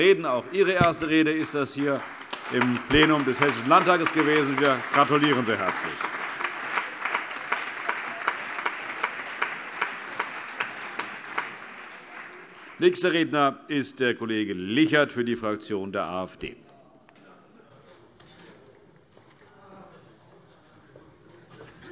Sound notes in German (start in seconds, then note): 6.6 Allgemeiner Beifall